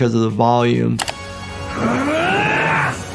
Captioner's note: mouse clicking; dramatic orchestral music